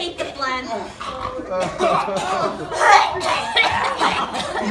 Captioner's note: hacking, coughing